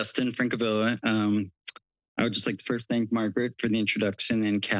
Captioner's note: smacks lips